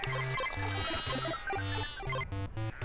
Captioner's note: video game music; sheep bleating